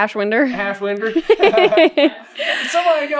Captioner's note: laughter